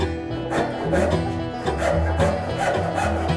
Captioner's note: saw cutting